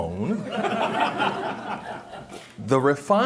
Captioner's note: chuckling